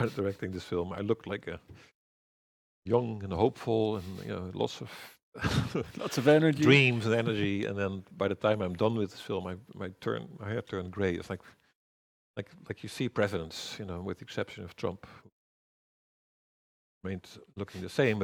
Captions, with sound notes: directing this film I looked like a young and hopeful and lots of Lots of energy. [chuckles] dreams and energy, and then by the time I'm done with this film my hair turned grey. You see presidents, with the exception of Trump remains looking the same,